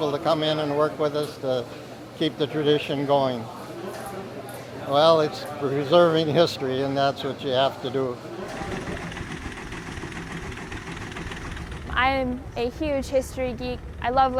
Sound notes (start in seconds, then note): 8.4 machine whirrs